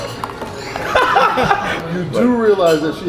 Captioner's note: laughs